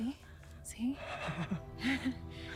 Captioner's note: both chuckle